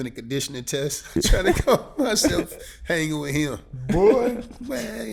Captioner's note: chuckles